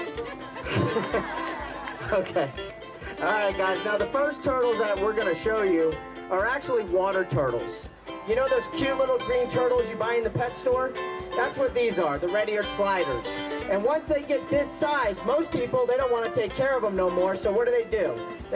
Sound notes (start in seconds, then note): 2.1 laughter